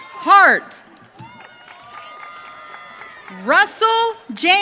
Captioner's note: audience cheering